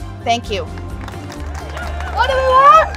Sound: crowd cheering

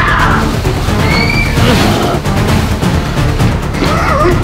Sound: Shaggy screams; Scooby Doo screams; dramatic music continues

